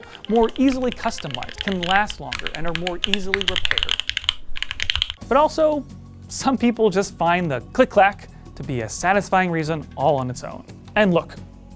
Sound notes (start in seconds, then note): 0.0 typing sounds getting louder; 3.1 loud typing on a clicky mechanical keyboard